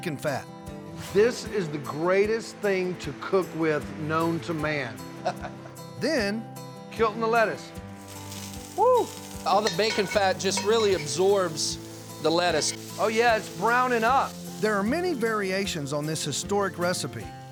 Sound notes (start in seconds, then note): 5.2 chuckles; 8.3 sizzling sound